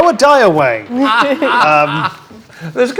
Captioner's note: group laughs